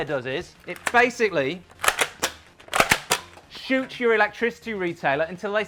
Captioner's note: gun clicking